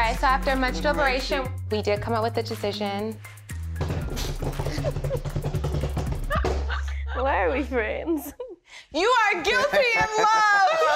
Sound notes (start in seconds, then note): 3.9 hands tapping